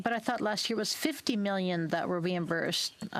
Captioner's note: speaking French